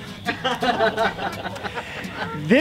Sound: laughter

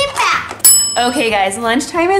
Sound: bell dings

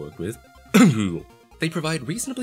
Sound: cough Google

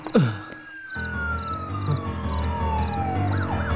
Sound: police siren

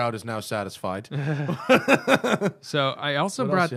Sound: laughter

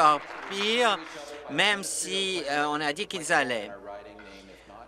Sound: applause

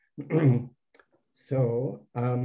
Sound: clears throat

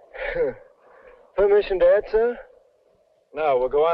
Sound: scoffing

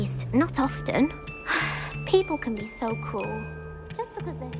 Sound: sighs

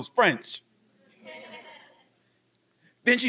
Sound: laughing from audience

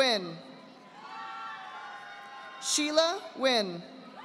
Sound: audience applauding

